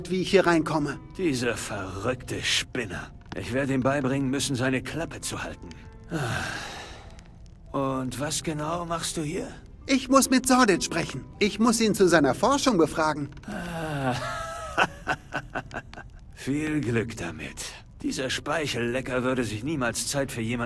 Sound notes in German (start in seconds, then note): 5.7 seufzt; 14.0 gelächter